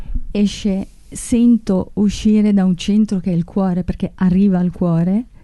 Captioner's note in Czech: mluví italsky